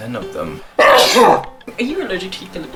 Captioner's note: sneezes